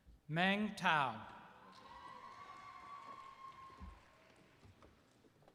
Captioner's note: applause